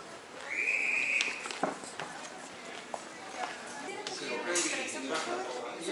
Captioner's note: none